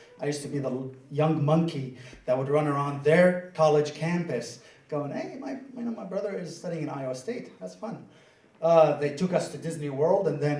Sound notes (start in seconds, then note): none